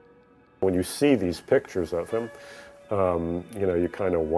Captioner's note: voiceover